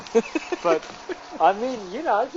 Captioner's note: laughs